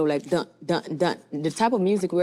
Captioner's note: imitates drumming